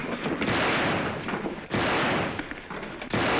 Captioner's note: gunshots